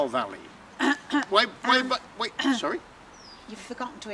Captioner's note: she coughs